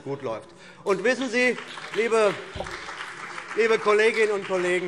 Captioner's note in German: Beifall CDU und BÜNDNIS 90/DIE GRÜNEN